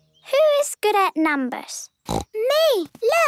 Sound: snorting

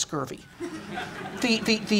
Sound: laughter

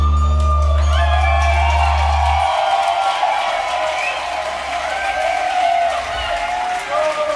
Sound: cheering

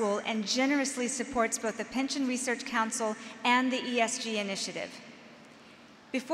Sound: none

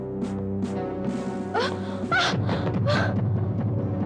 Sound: groans

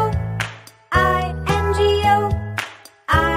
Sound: clap; clap

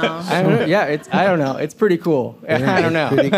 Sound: laughter

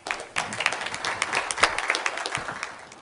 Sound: applause

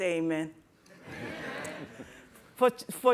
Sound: laughter

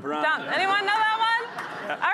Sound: chuckles

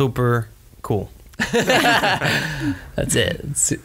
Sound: laughs

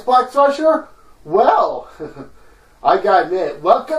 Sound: chuckles

